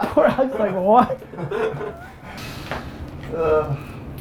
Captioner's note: group laughter